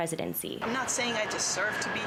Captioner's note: people chanting